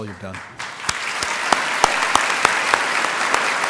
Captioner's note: applause